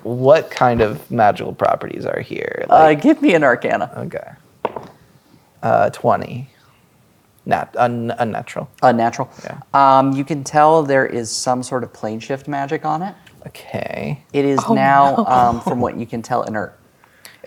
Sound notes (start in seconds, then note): 4.7 dice rolling